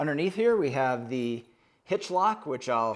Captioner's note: metal jingling